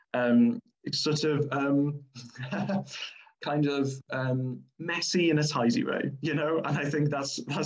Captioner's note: laughs